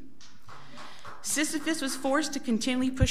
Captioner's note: audience applauds